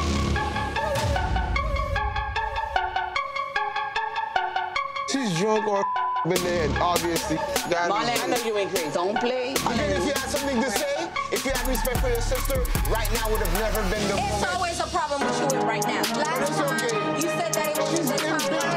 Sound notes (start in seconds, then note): 0.1 ominous electronic music; 6.2 beep